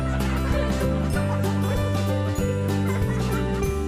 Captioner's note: children laughing